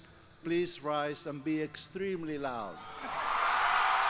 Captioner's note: applause